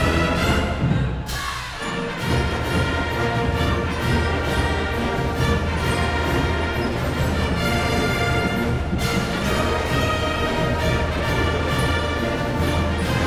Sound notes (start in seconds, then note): 0.0 crowd chanting; 7.0 band playing